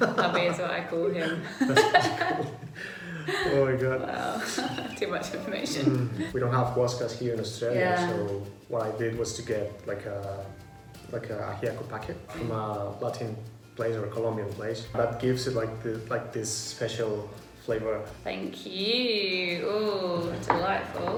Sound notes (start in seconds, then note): 1.2 both laugh